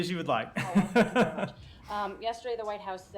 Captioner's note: laughter